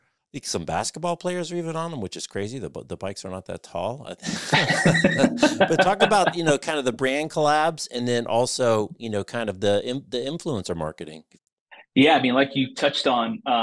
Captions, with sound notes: I think some basketball players, are even on them, which is crazy that the bikes are not that tall. (laughter) But talk about, you know, kind of the brand collabs and then also, you know, kind of the influencer marketing, Yeah. I mean, like you touched on